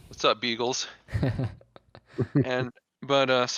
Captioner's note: chuckles